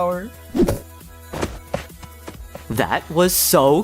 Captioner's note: running